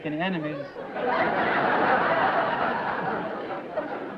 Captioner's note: laughter